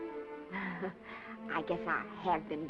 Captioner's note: laughs